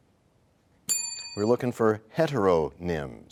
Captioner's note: bell rings, time expires